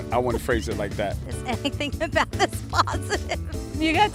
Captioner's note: laughing